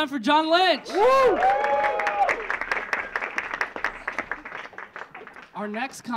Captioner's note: audience cheering; audience clapping